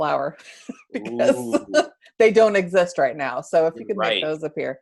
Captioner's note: laugh